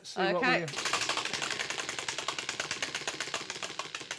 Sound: wheel clacking

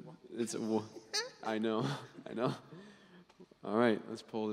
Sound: laughing

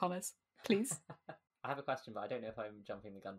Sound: laughs

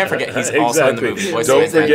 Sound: laughs

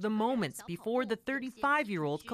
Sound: speaking foreign language

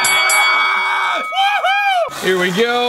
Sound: bell dinging

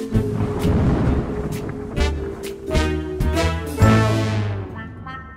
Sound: thunder storm rumbles

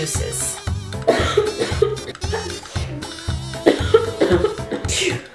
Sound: coughing and sneezing

